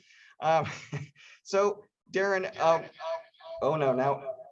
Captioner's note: audio reverb